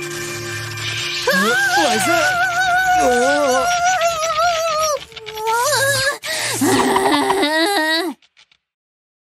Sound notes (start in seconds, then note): 2.2 meows